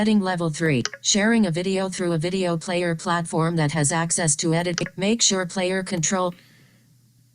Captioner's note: click